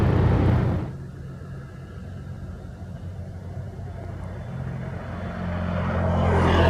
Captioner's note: rumble